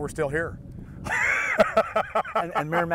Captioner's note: laughing